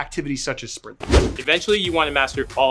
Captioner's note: whooshing